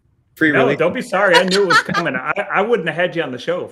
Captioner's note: laughing